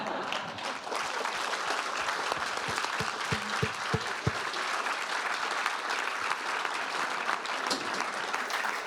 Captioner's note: audience applause